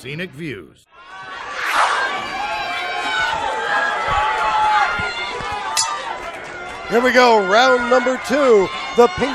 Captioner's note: applause